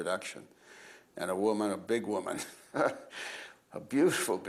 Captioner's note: laughs